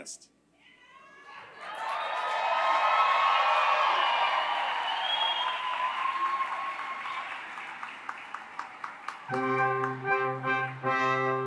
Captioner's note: applause